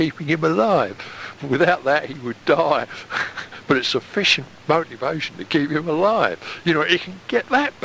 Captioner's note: chuckle